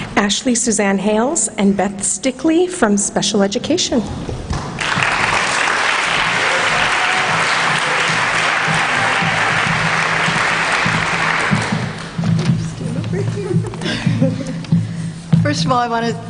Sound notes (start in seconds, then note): 4.7 applause